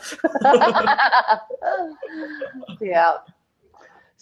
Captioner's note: laughing